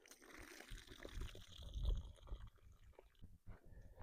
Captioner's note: pouring water sounds